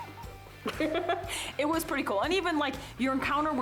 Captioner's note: laughs